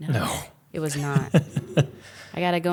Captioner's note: laughs